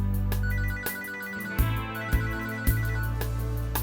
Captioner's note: phone ringing